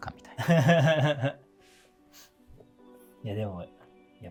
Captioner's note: laughing